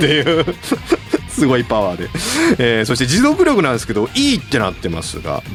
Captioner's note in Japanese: 笑い